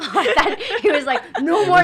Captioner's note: laughs